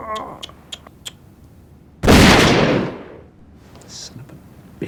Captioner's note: gunshot